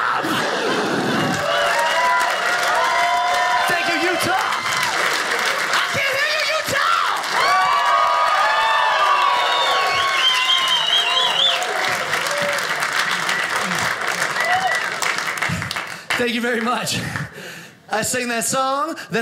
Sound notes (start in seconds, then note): 0.2 audience cheers; 7.3 audience cheers